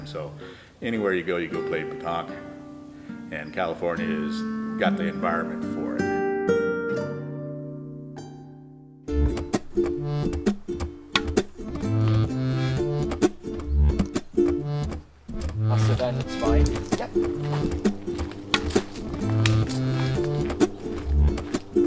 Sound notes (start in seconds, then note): 9.0 lively music; 15.4 chattering